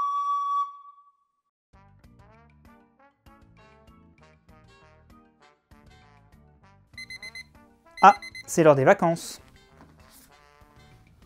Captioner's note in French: Montre qui bip